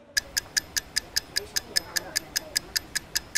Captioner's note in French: Bruit de chronomètre